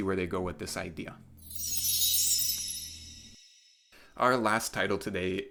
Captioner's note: chime sound